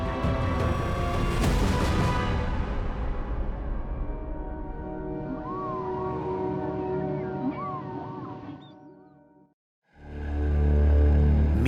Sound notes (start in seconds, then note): 5.1 mournful whale calling; 10.0 ominous orchestral music